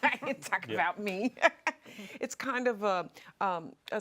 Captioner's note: laughs